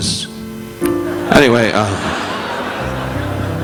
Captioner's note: audience laughing